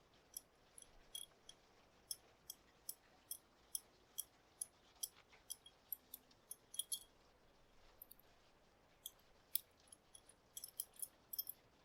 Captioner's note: rings clicking